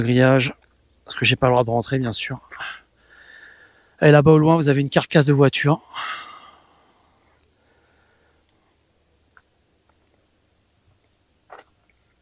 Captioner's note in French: soupir